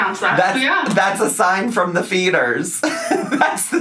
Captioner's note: laughs